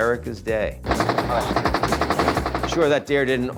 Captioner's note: rapid gunfire